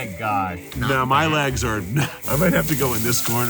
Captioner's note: laughs